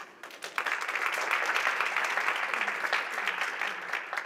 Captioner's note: applause